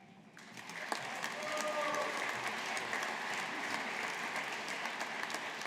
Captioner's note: audience applauding